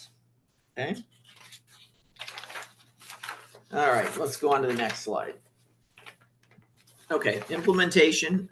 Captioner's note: papers shuffling